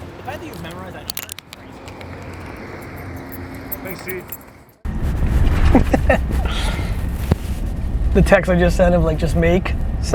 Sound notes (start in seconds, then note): 5.7 laughs